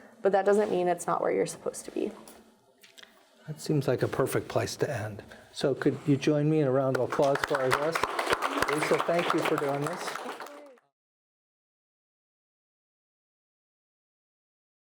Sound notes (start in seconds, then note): 6.9 all applauding